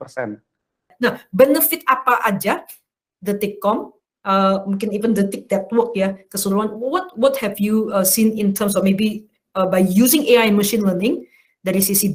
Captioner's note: non-english speech